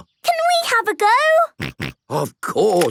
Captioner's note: snorting